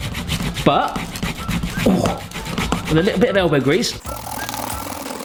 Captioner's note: exclaims